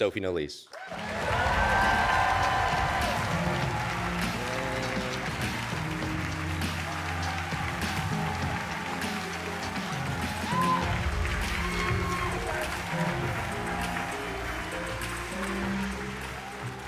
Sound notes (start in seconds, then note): 3.8 cheers and applause